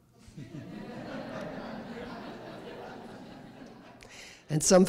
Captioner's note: laughter